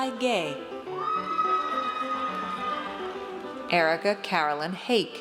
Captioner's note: audience cheers